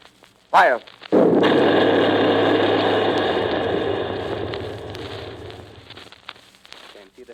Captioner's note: boom of heavy gun . . . pause